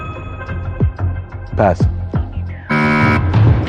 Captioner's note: buzzer sounds